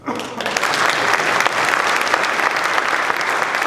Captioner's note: applause